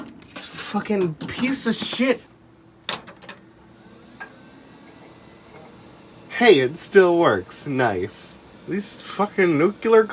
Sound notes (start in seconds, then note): 3.6 drives whir up